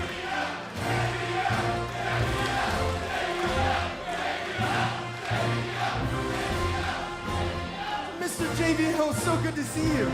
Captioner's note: crowd cheering